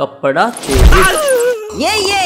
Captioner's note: scared